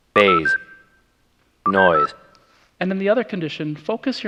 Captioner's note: playing recording